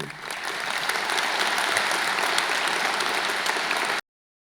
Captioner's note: audience applauding